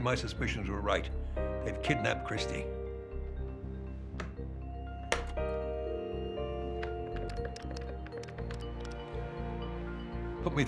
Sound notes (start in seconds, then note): 2.8 dialing phone